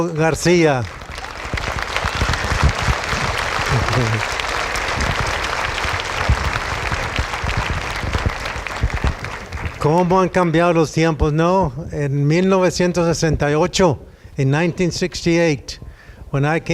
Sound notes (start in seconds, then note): 0.0 applause